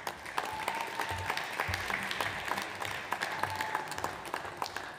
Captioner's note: audience applauds